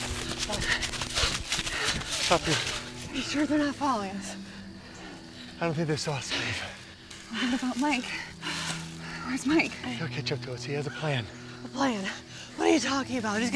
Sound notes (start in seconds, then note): 0.5 panting